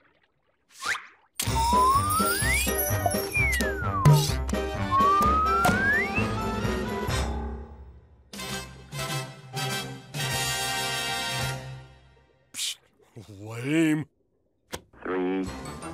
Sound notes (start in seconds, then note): 12.5 scoffs